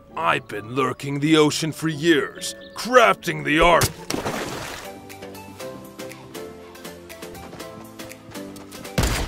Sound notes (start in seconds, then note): 3.7 water splashes; 5.3 soft upbeat music